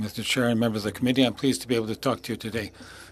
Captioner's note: speaking French